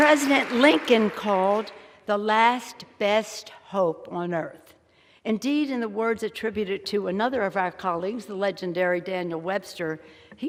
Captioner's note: applause